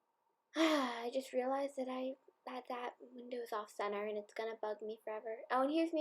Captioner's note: sigh